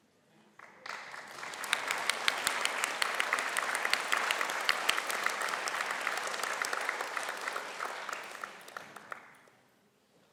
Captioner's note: applause